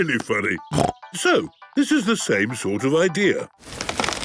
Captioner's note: snorting